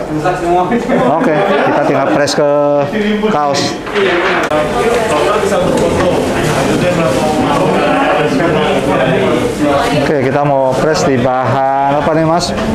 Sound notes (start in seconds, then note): 0.1 distant chattering; 3.8 PET film sound; 10.0 distant chattering